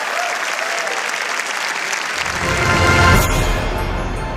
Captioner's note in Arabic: تصفيق